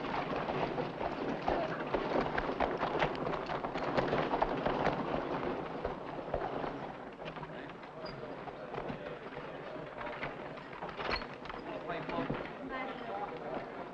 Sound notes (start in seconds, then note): 7.7 voices chattering